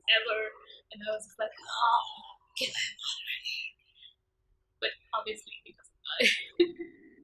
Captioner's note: giggles